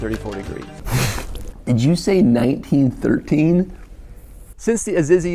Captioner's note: cough